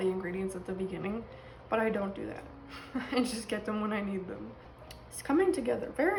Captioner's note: laughs